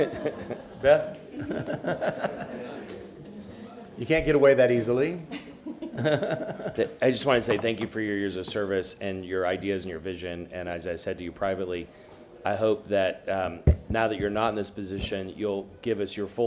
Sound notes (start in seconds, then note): 5.2 laughter